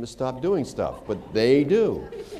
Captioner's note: laughter